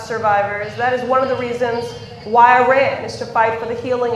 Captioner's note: none